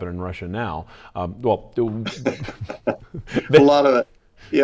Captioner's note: laughs